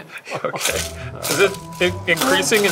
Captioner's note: ice rattling